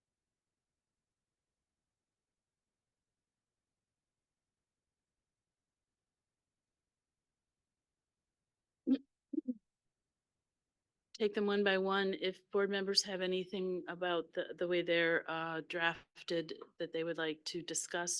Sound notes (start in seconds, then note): 8.3 audio cuts out